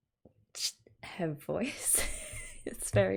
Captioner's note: laughs